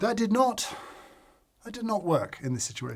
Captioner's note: sigh